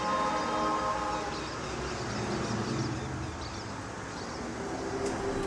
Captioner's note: birds chirping